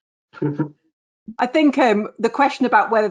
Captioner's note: laughing